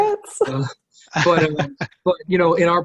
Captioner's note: laughing